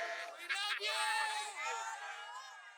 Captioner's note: voice off camera